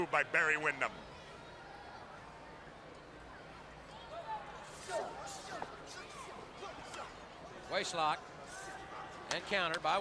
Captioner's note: crowd chatter